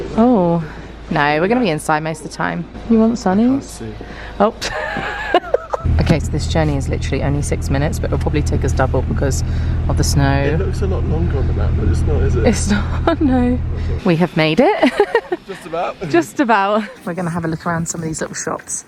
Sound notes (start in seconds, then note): 4.6 laughs; 14.9 giggles